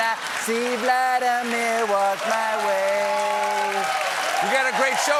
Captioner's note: cheers and applause